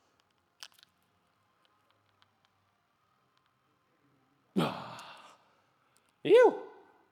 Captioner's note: grunts